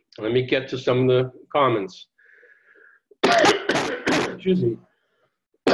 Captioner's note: coughing